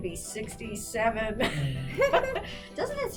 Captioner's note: laughs